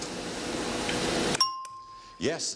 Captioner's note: ringing bell